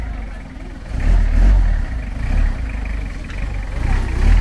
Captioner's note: sound of diesel engine